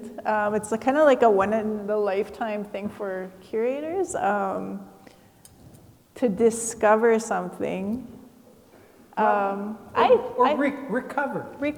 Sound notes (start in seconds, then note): none